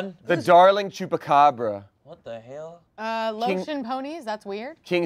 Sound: none

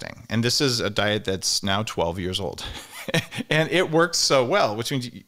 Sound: chuckles

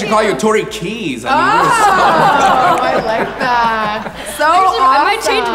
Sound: audience laughs

